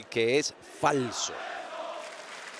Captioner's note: applause